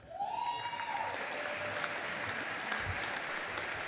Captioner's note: audience applauding